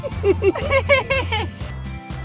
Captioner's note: both laugh